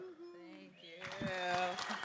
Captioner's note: applause